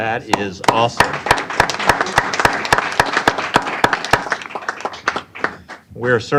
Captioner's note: applause